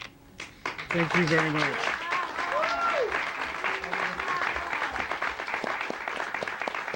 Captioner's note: audience clapping